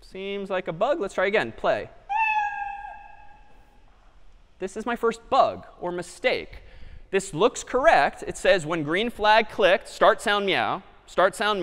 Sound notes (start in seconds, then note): 2.1 meow